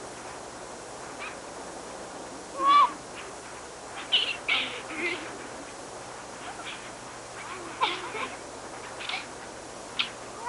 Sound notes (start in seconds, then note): 6.2 laughing, indistinct chatter